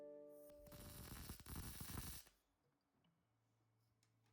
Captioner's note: welding noise